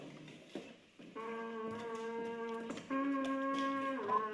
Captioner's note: horn blowing